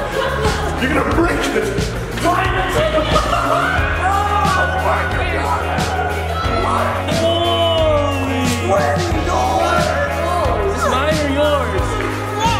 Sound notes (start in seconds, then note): 4.2 cheering